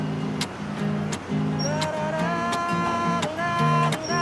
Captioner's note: huming